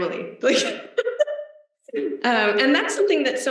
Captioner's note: laughs